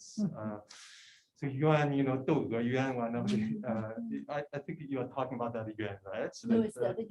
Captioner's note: non-english